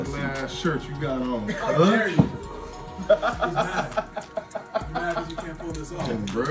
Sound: laugh

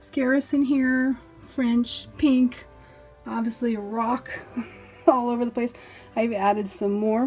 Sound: chuckles

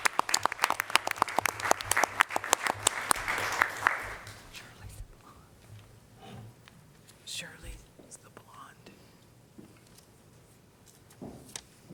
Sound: applause

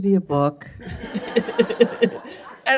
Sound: laughter

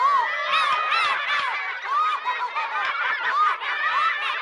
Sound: kids laughing

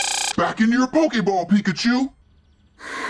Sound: low pitch; sigh

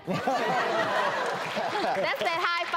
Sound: laughter

